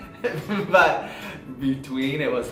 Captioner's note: laughs